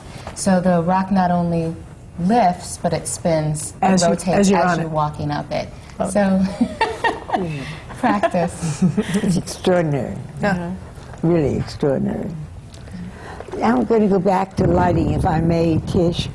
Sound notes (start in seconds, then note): 6.6 laughs